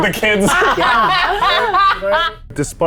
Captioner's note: group laughs